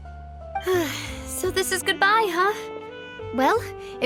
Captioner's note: sigh